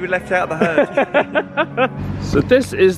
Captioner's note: chuckling loudly